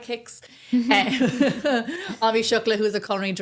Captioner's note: laughing